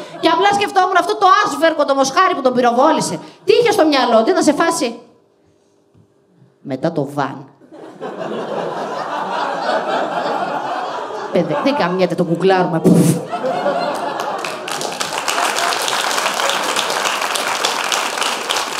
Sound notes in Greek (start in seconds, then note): 14.9 γελια και χειροκροτημα